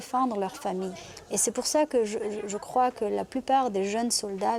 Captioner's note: French spoken audio